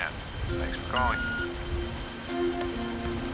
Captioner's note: beep